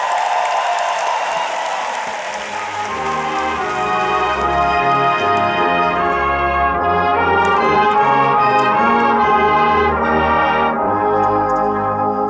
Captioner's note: applause